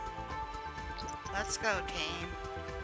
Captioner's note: sounds of a little glade